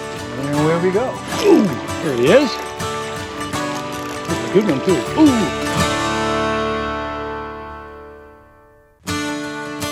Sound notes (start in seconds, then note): 1.0 rod whipping; 2.1 reel spinning